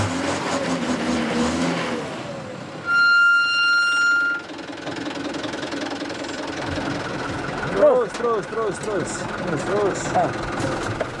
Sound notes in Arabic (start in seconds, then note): 3.3 صرير الفرامل; 5.0 محرك الشاحنة يتلعثم